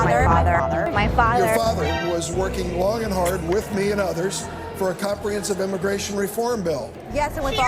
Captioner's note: alert